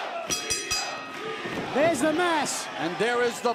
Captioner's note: bell ringing